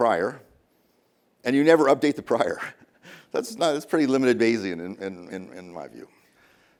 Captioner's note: chuckles